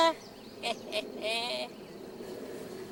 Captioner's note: chuckles